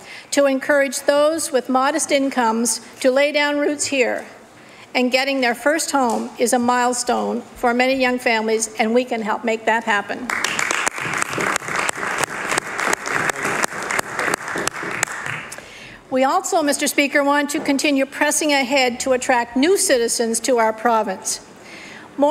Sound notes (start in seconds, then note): 18.3 applause